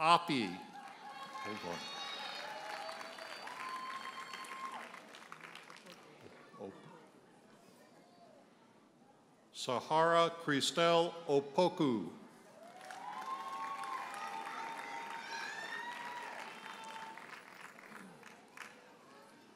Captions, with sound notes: Big one. (audience cheers and applauds) Sahara Christel Opoku. (audience cheers and applauds)